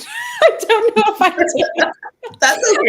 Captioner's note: laughs; laughter